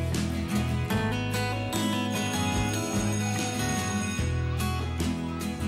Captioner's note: school Bell Ringing